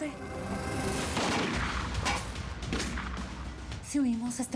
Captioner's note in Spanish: continúa la balacera